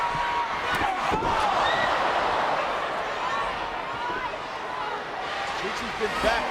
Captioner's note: body thuds; elbow thwacks